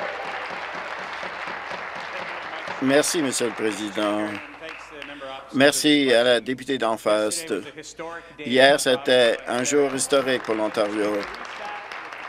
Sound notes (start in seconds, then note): 4.1 applause; 4.9 cheers